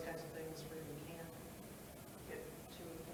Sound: speaks faintly

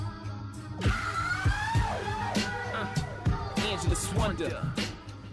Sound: confused

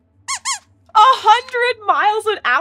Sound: squeaks squeaks

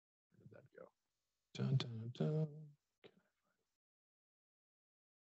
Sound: vocalizing and humming

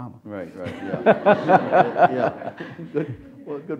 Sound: audience laughs

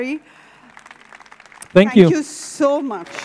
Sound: audience claps

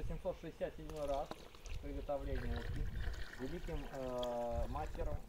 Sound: soup splashing

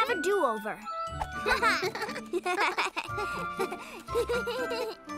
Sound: both chuckling

